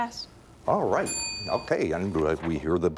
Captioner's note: bell dings